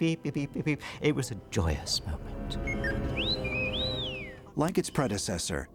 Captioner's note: beep Whistle